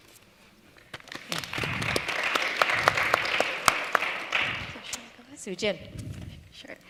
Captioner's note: applause